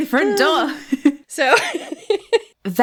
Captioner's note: laughs